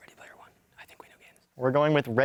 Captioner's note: whispering